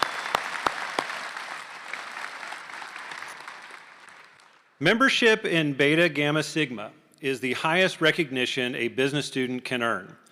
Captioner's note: applause